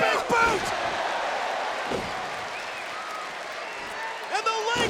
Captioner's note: audience cheers